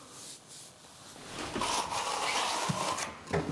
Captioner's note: grinding noises